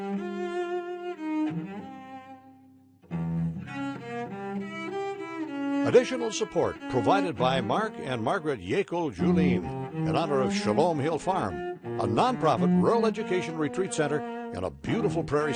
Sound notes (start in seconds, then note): 0.2 violin music; 6.0 voiceover